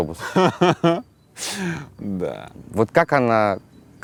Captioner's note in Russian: хохочет